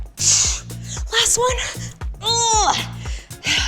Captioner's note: grunts